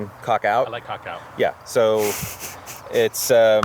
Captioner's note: chuckles